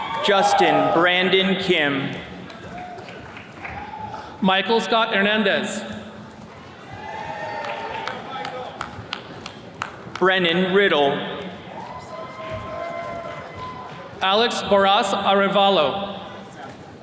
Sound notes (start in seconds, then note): 0.0 attendees cheers and claps; 1.9 attendees clapping; 6.7 attendees cheering; 11.6 attendees cheering